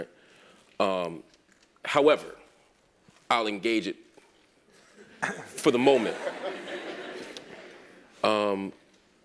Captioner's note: laugh